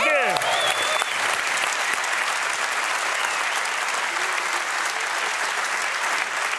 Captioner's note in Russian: публика аплодирует